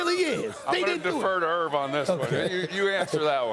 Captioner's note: laughter